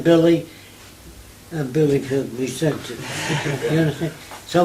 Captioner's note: laughter